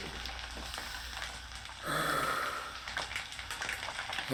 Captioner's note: internal breath